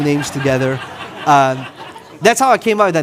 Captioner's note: audience laughing